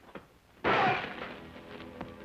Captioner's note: glass shattering; ominous music